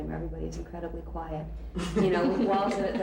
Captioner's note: laughter